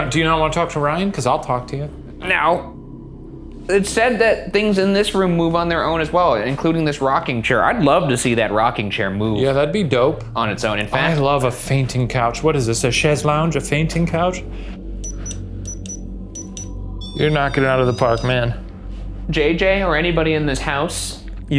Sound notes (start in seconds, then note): 15.0 REM-pod beeps